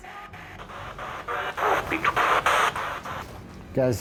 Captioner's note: spirit box voice